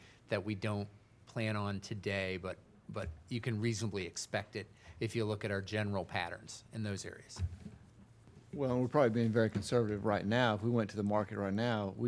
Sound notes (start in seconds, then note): none